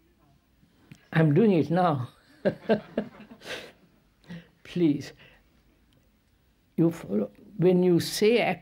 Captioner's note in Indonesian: tertawa